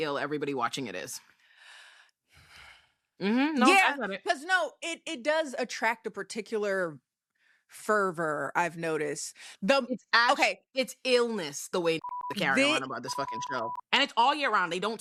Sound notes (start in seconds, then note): 12.0 beep